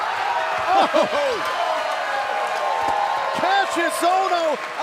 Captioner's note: cheers and applause